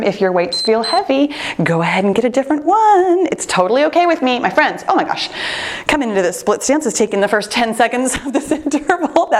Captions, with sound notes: If your weight's feel heavy, (timer beeps) go ahead and get a different one. It's totally okay with me, my friends, oh my gosh. Coming into this split stance is taking the first 10 seconds of this interval.